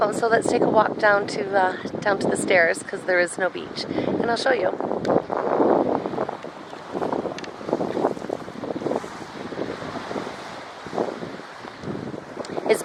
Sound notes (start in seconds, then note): 6.0 waves lapping; 6.0 wind howling